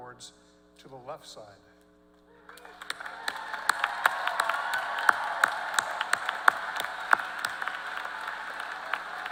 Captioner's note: applause